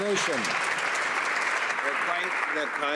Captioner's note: some Applause